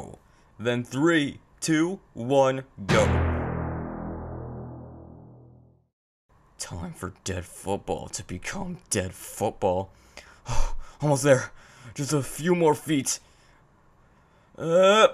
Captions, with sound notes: Then 3, 2, 1, GO!! Time for Dead Football to become Dead Football. (Sigh) Almost there. Just a few more feet. AAAH!